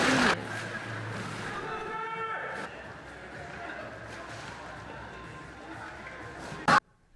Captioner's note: shouting and splashing